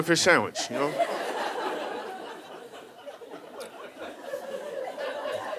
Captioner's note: audience laughing